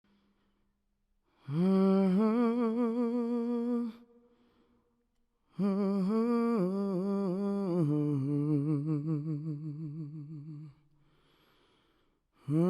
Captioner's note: humming